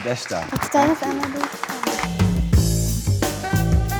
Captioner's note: Tom speaks Japanese; audience applauds; Anna speaks Japanese; groovy music